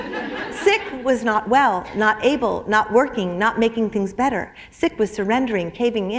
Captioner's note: laughter